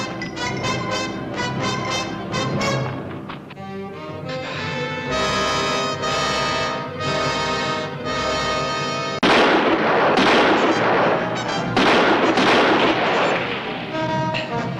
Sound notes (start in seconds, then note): 0.1 tense instrumental music continues; 9.2 gunshots